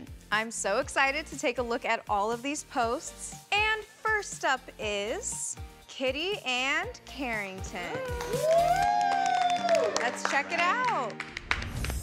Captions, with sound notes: I'm so excited to take a look at all of these posts. And first up is Kitty and Carrington. [cheering] Let's check it out.